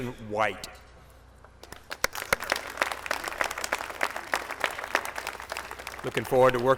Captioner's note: applause